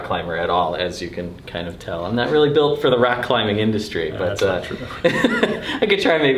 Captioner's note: laughter